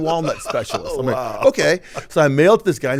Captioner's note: laughing